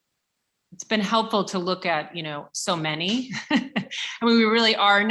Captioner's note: laughs